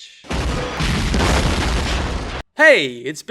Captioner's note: explosion booming